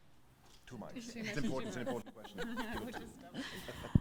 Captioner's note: chattering